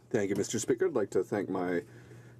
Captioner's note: speaking in french